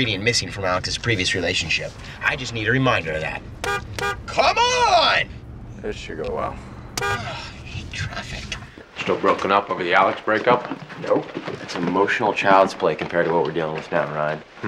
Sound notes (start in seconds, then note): 2.8 car horn honking; 6.6 honking continues